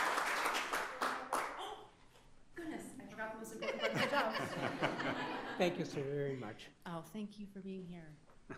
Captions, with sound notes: - Goodness, I forgot the most important bunch of jokes. (audience laughing) - Thank you, sir, very much. - Oh, thank you for being here.